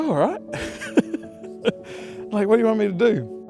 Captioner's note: laughs